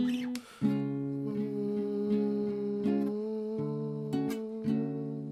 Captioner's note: vocalizing